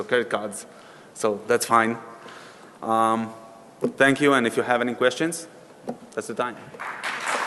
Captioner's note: applause